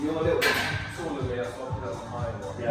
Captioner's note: metal clanking; rhythmic dance music